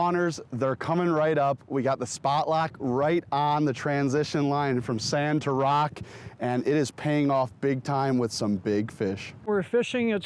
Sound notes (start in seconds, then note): none